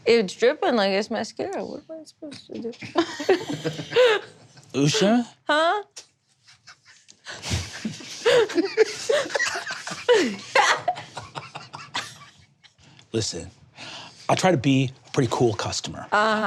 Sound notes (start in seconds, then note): 7.2 players snickering